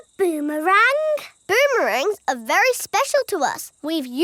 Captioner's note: none